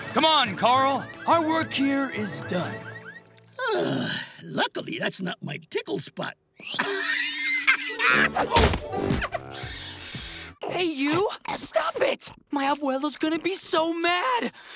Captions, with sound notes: Come on, Carl. Our work here is done. [sighing] Luckily, that's not my tickle spot. [laughing] Hey, you! Stop it! My Abuela's gonna be so mad!